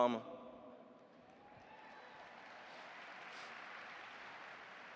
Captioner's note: audience applauding